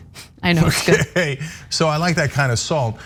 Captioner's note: laugh